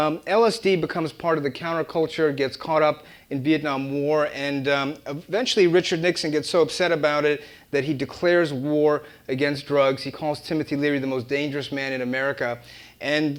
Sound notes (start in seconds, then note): none